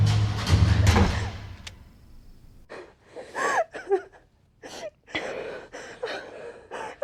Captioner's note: crying